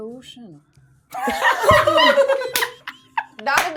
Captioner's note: everyone laughing